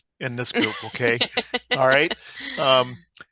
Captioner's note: laughs